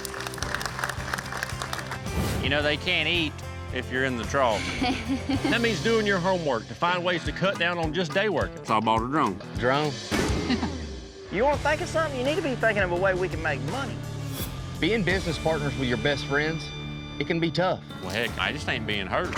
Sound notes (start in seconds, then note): 0.0 clapping; 4.6 giggling